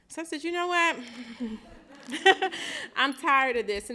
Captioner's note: laughter